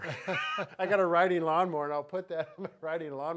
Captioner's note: both laughing